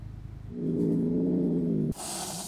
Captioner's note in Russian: звуки злой кошки